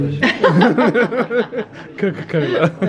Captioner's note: both laugh